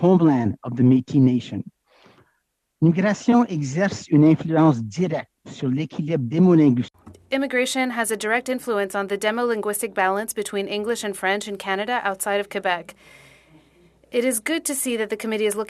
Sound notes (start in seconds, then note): 11.9 speaking French